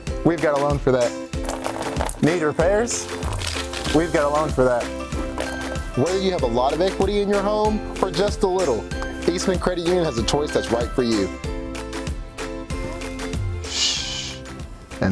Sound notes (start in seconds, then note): 1.4 water Dripping Sound